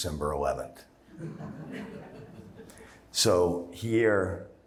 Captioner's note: laughter